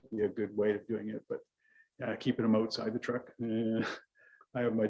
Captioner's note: chuckles